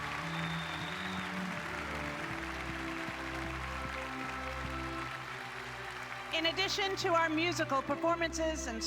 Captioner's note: applause